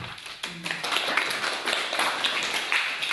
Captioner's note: applause